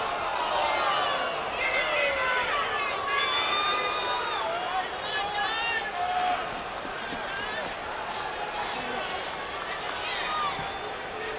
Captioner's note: applause